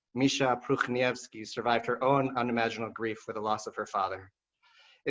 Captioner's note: non-english